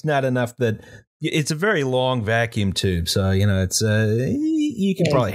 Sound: equivocating noise

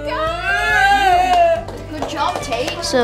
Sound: claps

